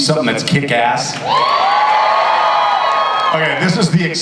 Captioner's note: audience cheers